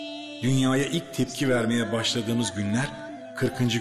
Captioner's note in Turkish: Ahmet dış ses